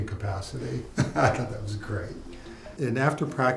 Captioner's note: laughs